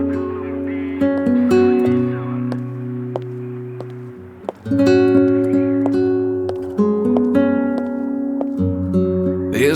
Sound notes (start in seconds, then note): 2.4 heels tap against marble; 4.5 guitar strums